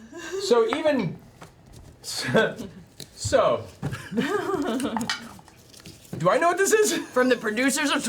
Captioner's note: laughs